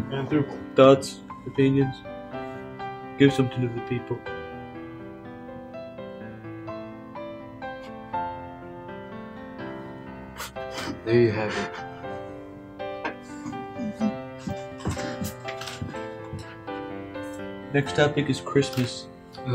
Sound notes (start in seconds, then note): 7.9 sobbing